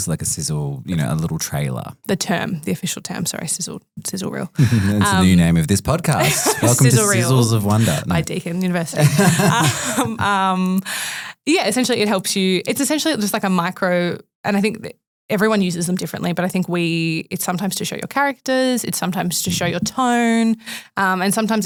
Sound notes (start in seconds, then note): 8.9 group laughing